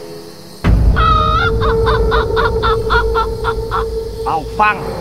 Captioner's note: Laughing